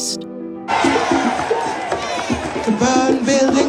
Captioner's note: crowd cheering